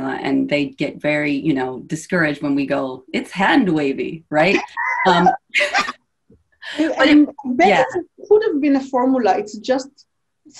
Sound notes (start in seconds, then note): 4.5 laughs